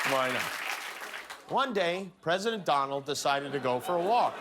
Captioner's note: cheers and applause